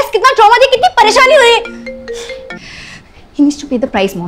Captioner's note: Phone ringing